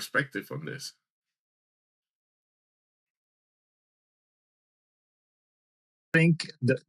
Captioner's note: audio cuts out